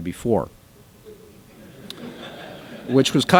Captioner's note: laughter